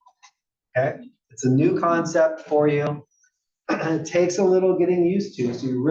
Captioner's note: cough